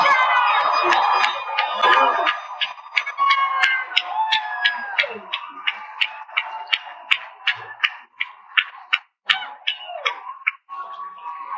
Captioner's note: cheering and Applause